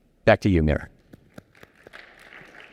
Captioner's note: applause